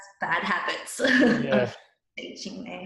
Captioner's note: laughs